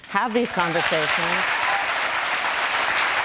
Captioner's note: applause